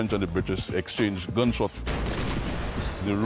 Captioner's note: cannon firing